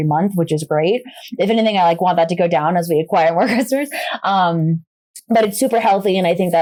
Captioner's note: laughs